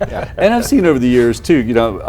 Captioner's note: laughs